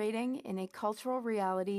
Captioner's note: speaking French